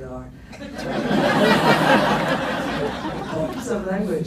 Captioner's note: laughs